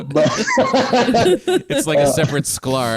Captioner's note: everyone Laughs